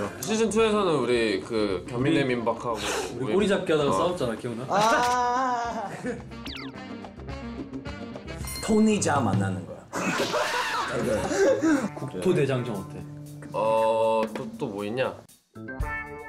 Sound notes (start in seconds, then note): 9.9 haha